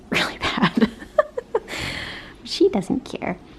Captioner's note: laughing